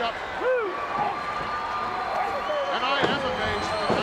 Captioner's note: crowd cheering